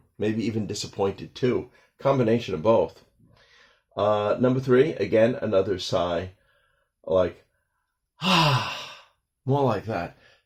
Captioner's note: sigh